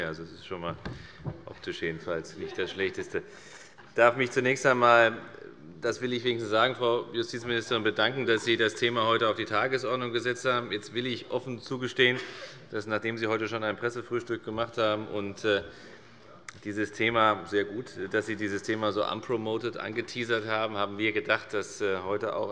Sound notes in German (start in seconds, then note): 2.4 Allgemeine Heiterkeit; 10.6 Zuruf